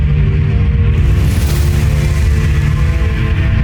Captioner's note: infernal whoosh-crackle; music fades